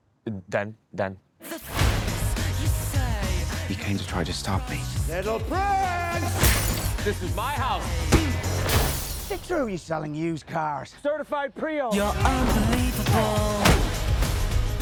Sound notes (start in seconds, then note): 12.0 grunting, groaning